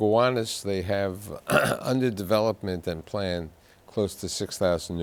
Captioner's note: clears throat